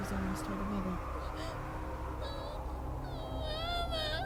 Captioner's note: child sobbing